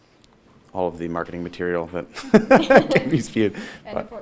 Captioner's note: laughing